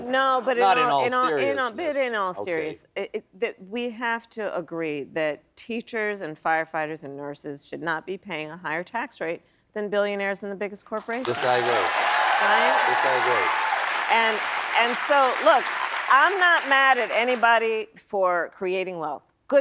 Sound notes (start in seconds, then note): 11.0 applause